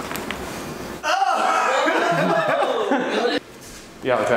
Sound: exclaiming

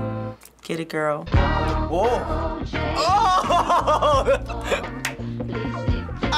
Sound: laughs

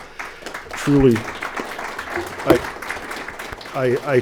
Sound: audience clapping

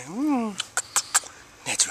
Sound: kissy noises

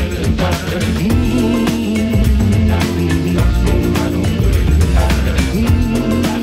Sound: humming

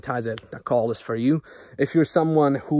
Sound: snap

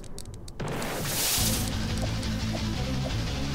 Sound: ship snaps in half

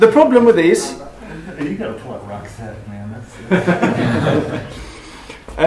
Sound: laughter

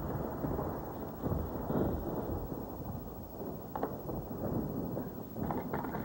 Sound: thunder

